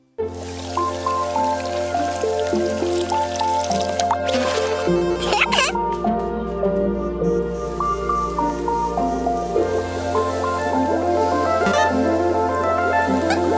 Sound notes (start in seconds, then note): 5.0 giggles